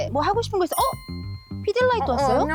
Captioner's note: spotting something sound effect